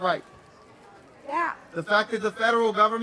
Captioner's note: crowd voice